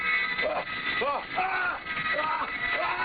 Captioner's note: screaming